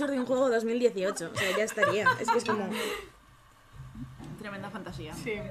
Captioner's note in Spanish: risas